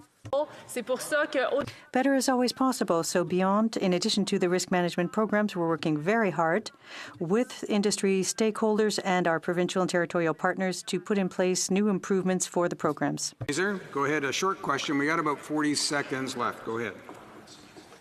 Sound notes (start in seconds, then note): 2.3 speaking in French